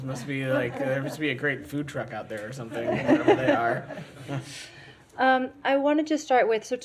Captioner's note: laughter